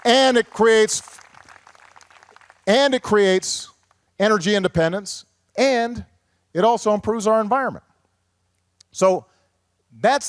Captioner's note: applause